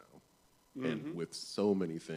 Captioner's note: none